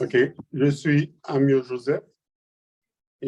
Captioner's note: non-english speech